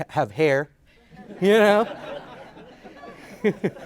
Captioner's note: audience laughs